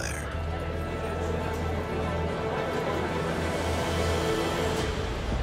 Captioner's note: chattering voices